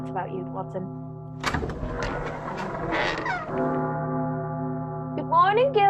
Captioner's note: squeaky door opens